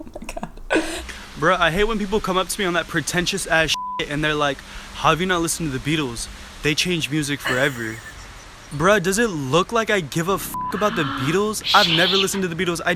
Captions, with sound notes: Oh my god. - Bro, I hate when people come up to me on that pretentious ass (beep) and they're like, how have you not listened to the Beatles? They changed music forever. Bruh, does it look like I give a (beep) about the Beatles? I've never listened to the Beatles.